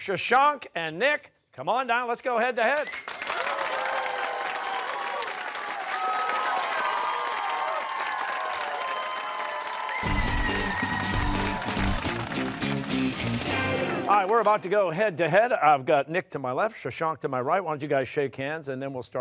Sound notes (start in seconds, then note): 3.5 cheering